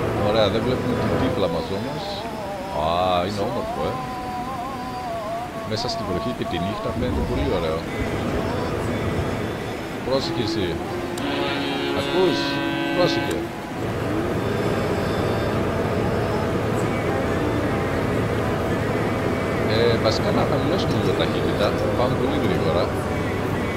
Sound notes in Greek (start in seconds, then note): 9.2 Κόρνα!